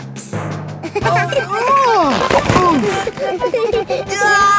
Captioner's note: giggling; grunting; giggling